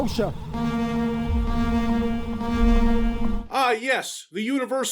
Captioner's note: alarm siren